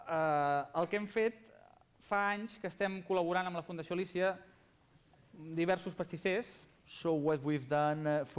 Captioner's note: non-english speech